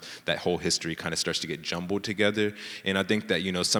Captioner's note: none